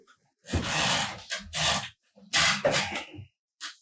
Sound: bed creaking

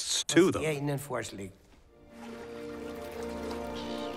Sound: water lapping and seagulls squawking

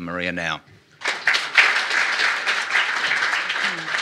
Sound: applause

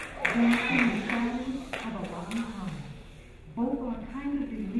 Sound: crowd applauding; crowd shushing

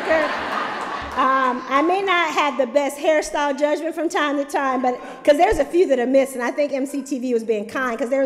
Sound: laughter

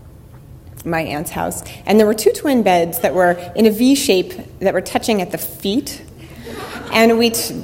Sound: audience laughter

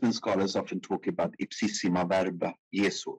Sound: speaking in foreign language

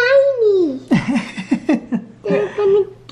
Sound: laughing

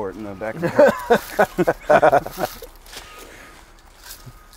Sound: both laughing

